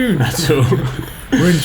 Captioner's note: laughs